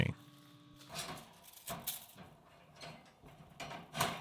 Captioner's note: metal clanking